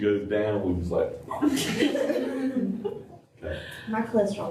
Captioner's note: laughter